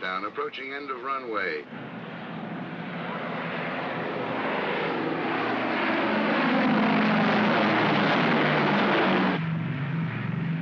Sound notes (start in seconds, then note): 2.4 aircraft roars; 9.1 aircraft rumbles